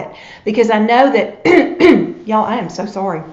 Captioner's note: coughs